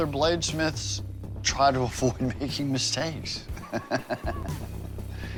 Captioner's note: laughs